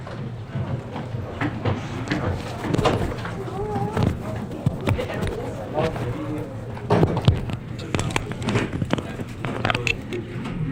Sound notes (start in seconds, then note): 2.3 people chattering